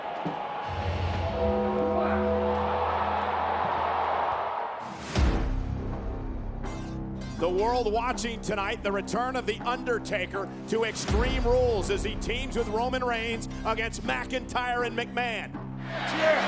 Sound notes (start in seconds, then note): 0.0 audience cheers and applauds; 0.7 bell tolls